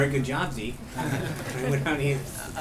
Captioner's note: laughter